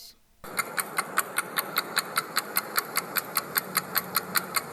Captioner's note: clock ticking